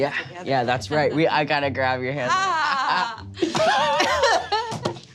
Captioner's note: moan laughs